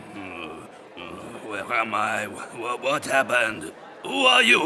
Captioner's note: groans